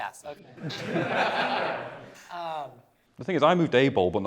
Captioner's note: laughter